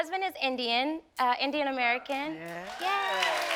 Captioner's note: audience cheering